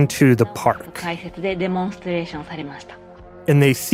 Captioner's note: speaking Japanese